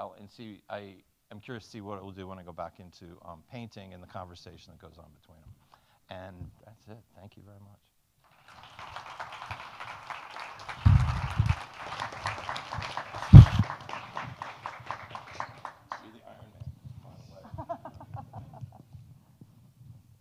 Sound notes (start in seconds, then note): 8.2 audience applauding; 17.4 woman laughs